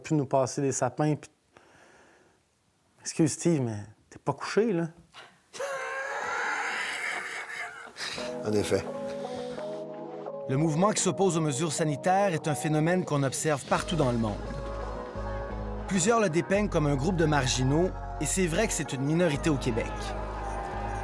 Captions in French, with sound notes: de nous passer des sapins... Excuse Steeve, mais... t'es pas couché, là. (rires) - En effet. - Le mouvement qui s'oppose aux mesures sanitaires est un phénomène qu'on observe partout dans le monde. Plusieurs le dépeignent comme un groupe de marginaux et c'est vrai que c'est une minorité au Québec.